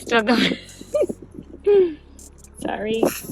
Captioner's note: laughs